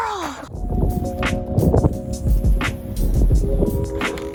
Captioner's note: spray can whooshing